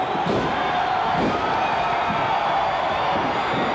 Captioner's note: crowd cheers